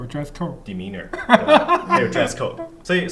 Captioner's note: laughter